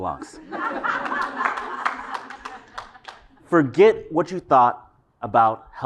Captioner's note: laugh